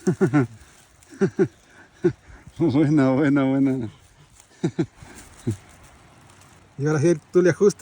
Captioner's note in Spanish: risas